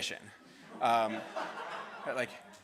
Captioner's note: students laughs